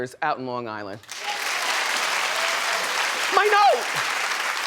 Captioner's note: audience applauds